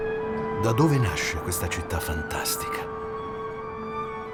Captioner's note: Toni Servillo, in Italian